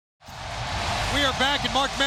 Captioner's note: crowd cheering